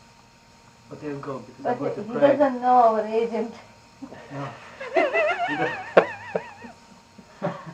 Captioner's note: laughter